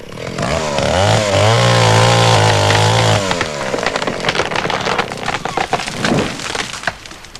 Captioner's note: sound of chainsaw and tree falling